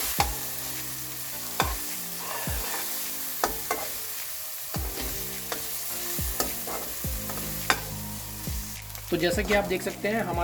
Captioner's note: more SIZZZZZZZZLLLLLLEEEEEEE